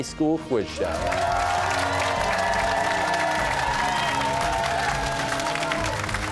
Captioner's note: cheers and applause